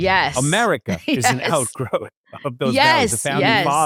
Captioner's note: laughs